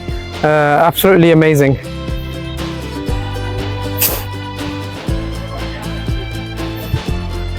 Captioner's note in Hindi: नाक से की जाने वाली आवाज़